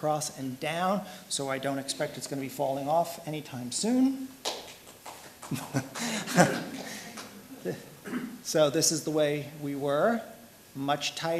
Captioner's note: applause